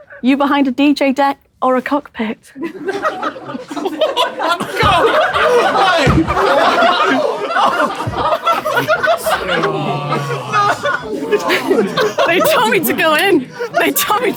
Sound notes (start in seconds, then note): 3.0 people in room chuckling; 5.2 people in room laughing